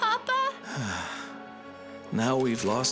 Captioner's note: maurice sighs